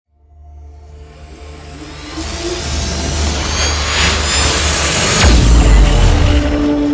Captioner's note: crescendo of futuristic sound